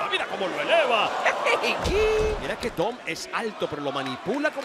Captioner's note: laugh